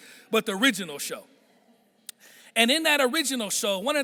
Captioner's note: none